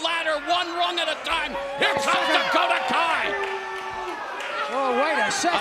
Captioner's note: crowd boos